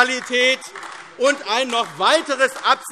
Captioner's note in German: Beifall AfD